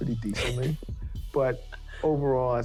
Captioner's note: Tamika laughing